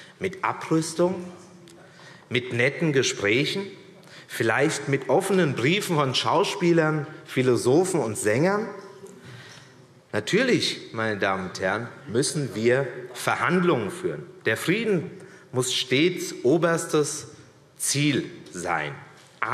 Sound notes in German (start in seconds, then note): none